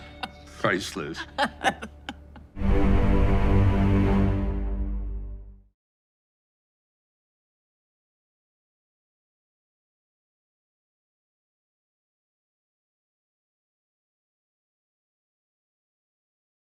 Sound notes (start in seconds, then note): 1.1 Margaret laughs